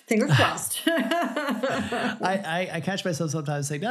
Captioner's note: laughs